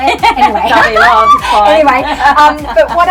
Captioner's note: laughing